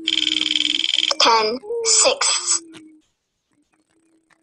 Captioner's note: wheel clicking; voiceover